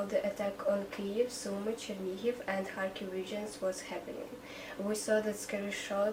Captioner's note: speaking in Ukrainian